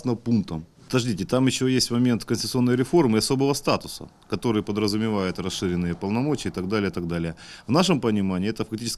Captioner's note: Ukrainian